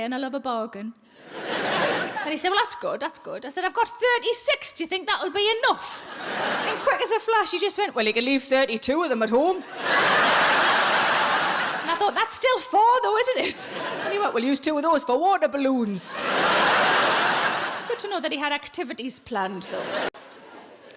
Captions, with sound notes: and I love a bargain." And he said, "well, that's good, that's good." I said, "I've got 36. Do you think that'll be enough?" And quick as a flash, he just went, "Well, you can leave 32 of them at home." (audience laughs) And I thought, "That's still four though, isn't it?" And he went, "We'll use two of those for water balloons." (audience laughs) It's good to know that he had activities planned, though.